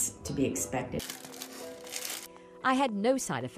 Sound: crinkling

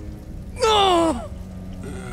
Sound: groaning

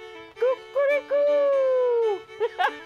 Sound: laughter

